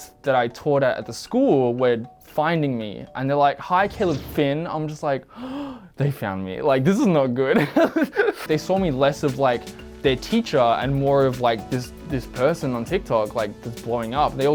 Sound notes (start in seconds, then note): 5.2 gasping; 7.6 laughing